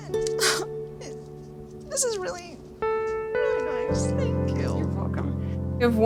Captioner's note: sobbing